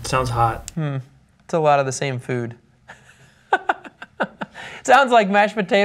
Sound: laughter

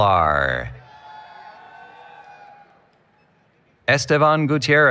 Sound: applause, Cheering

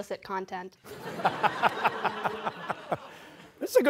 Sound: laughter

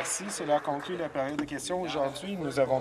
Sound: applause

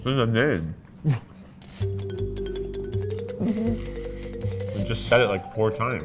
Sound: laughing

